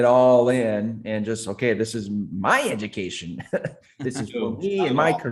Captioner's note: chuckles